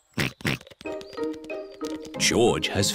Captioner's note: snorts